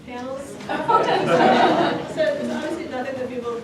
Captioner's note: laughter